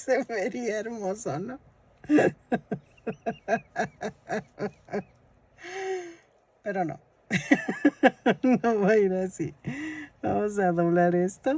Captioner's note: laughs